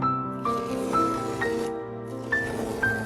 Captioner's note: peeling off masking tape sounds